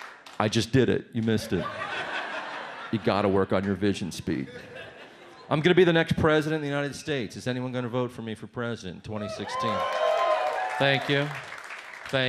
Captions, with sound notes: I just did it. You missed it. (audience laughs) You gotta work on your vision speed. I'm gonna be the next President of the United States. Is anyone gonna vote for me for President in 2016? (audience cheers) Thank you.